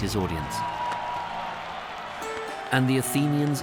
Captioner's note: crowd cheering enthusiastically